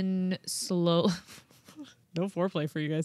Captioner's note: chuckling